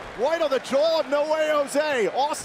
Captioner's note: crowd cheering